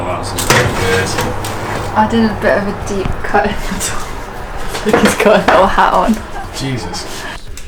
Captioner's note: laughing